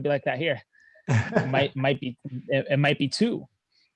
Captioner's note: chuckling